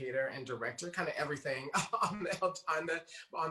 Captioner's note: chuckles